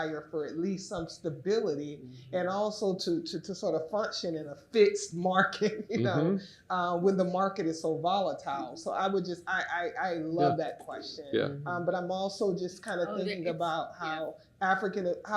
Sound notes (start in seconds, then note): 5.2 laughs